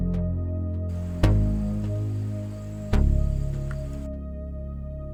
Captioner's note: insects chirping; pensive synth music continues